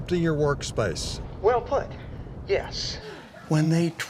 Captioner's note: on phone